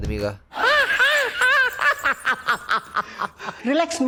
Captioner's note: cringe laugh